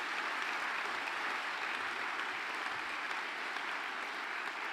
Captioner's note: applause